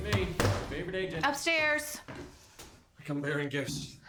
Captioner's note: footsteps approaching; slams laptop shut